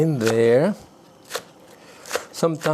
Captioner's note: knife chops